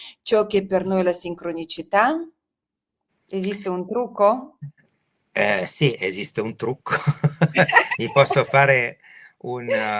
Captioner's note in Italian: risate